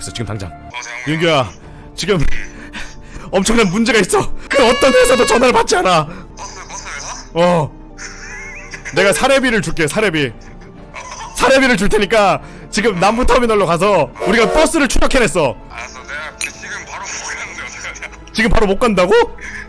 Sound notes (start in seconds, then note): 2.5 nervous breaths